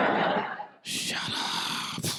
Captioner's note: whispering